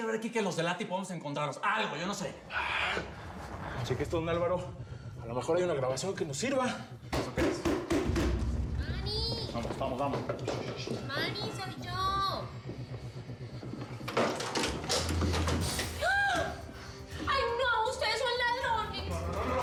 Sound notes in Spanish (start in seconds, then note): 13.8 sonido al abrir la puerta; 15.6 exclamaciones